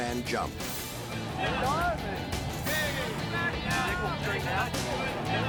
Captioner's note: people chatting